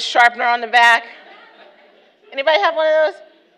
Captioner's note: audience laughter